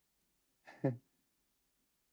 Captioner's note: chuckles